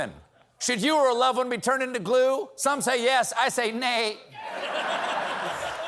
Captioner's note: laughter